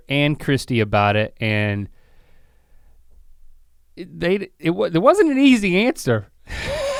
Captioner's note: laughs